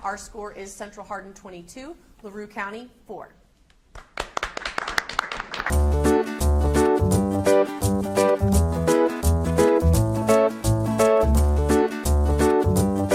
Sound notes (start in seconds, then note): 4.0 audience applauds; 5.6 instrumental upbeat music